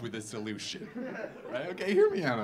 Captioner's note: audience laughing